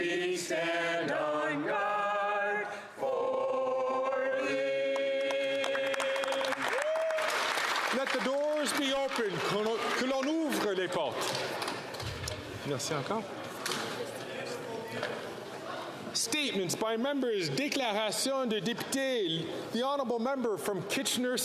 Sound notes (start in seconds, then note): 9.9 some Applause; 13.4 speaking French